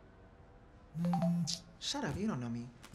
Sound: cell phone chimes

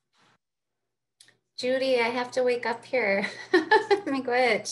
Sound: laughs

